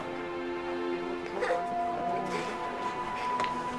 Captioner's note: giggling